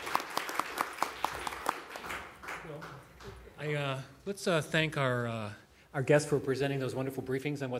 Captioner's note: applause